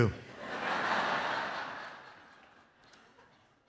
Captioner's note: laughter